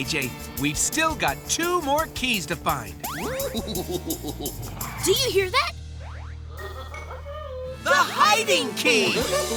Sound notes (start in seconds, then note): 3.2 giggling